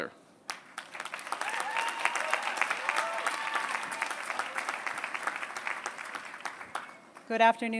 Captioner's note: applause